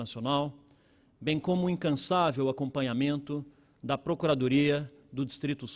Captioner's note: speaking Portugese